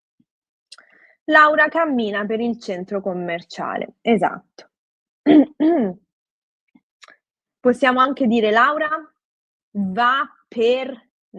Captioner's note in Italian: schiarire la voce